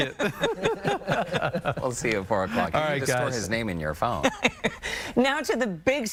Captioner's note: laughter